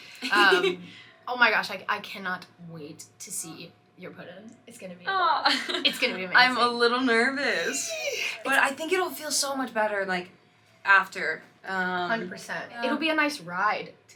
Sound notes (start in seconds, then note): 0.2 laughing; 5.4 laughing; 7.5 exclaims